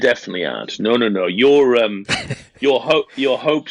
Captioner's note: laughs